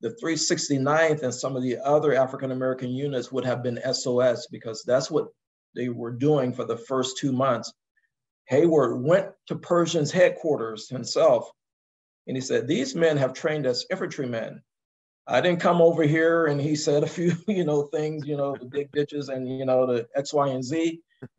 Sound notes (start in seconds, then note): 18.1 laugh